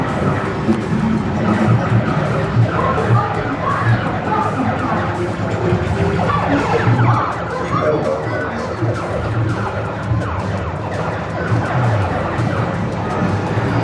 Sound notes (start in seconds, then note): 3.6 games audio playing